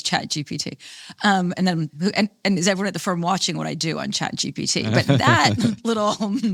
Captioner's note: laughing